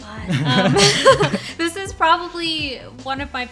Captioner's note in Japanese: 二人とも笑う